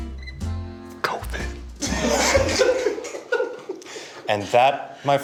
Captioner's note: laughs